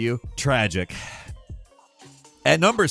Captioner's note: sighing